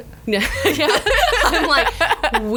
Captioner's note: laughs